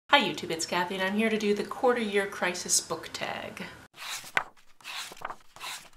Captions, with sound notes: Hi YouTube, it's Kathy, and I'm here to do The Quarter Year Crisis Book Tag. [pages turning]